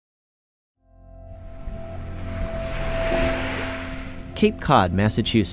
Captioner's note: ocean sounds